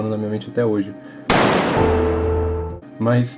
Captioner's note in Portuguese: som de tiro